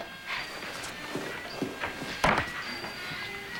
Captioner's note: sigh